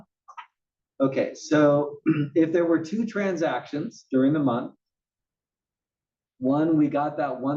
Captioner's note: cough